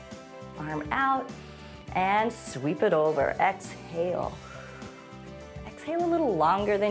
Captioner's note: inhales; exhales